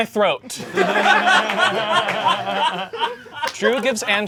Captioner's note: audience laughing